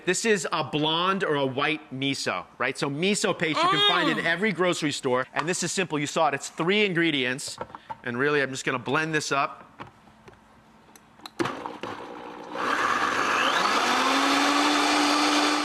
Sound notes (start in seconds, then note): 11.9 blender whirrs